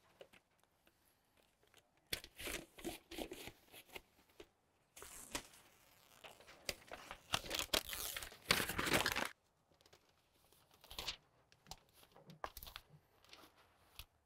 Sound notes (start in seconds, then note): 8.2 insulation paper ripping